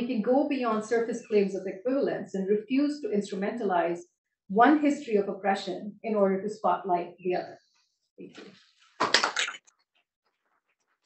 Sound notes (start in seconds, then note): 9.0 applause